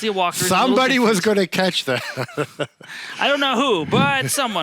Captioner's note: laughs